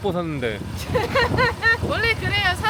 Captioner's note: haha